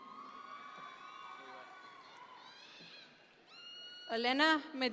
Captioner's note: audience members cheer